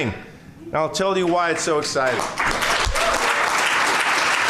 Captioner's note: applause